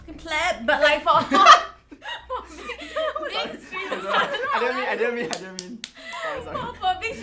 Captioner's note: laughs